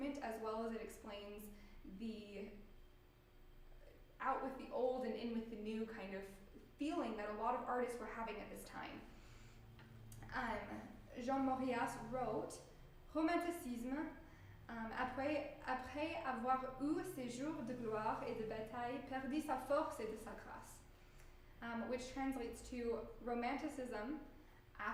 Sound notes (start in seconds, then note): 16.3 speaking french